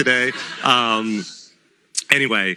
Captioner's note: laughter